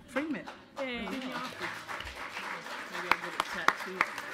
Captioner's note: applause